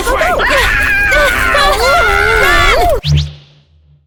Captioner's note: screams